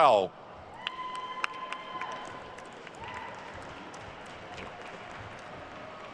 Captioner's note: attendees cheering and applauding